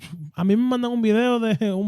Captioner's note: speaking In Foreign Language